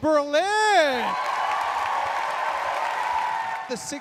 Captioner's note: audience cheering